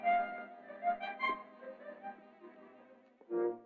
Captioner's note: footsteps clacking